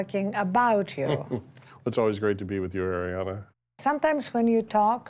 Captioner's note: chuckles